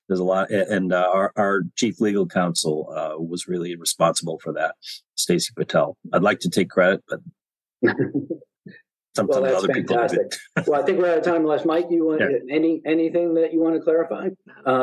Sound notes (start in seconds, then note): 7.8 laughter